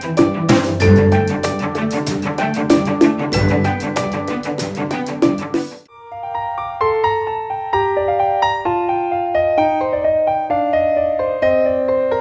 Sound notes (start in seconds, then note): 0.4 clap